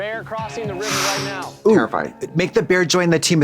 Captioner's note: gasps